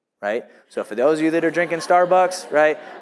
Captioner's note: audience laughs